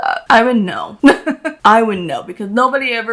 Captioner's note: laughs